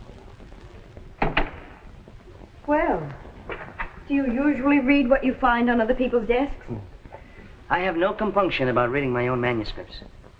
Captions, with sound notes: [ DOOR CLOSES ] Well, do you usually read what you find on other people's desk? I have no compunction about reading my own manuscripts.